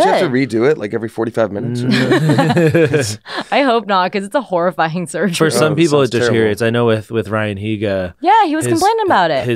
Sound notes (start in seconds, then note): 1.8 laughs